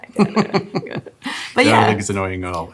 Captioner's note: laughs